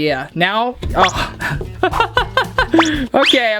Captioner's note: laughing